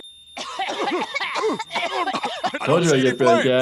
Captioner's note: family coughs